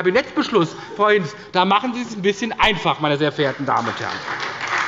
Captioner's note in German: Beifall bei der SPD